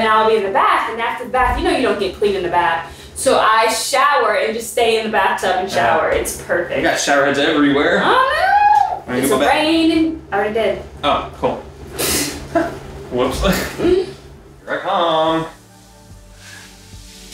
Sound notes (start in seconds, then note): 12.1 laughing